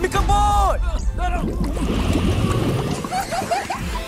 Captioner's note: gasps; chokes, splutters; Washy-Moshy giggles happily